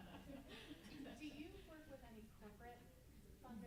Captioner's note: murmuring